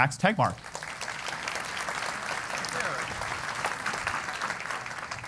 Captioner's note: applause